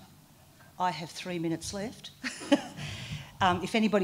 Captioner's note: laughter